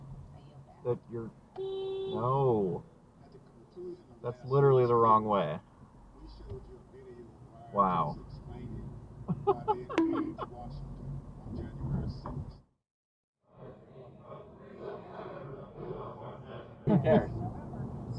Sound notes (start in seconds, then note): 9.9 bonk